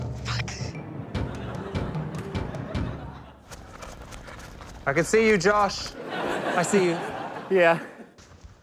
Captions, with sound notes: - Fuck. (CHUCKLES) (ENERGETIC MUSIC PLAYS) (MUSIC STOP, FOOTSTEPS PATTER) - I can see you, Josh. I see you. Yeah.